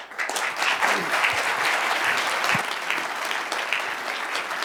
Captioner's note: applause